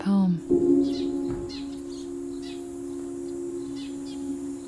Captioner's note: bird calling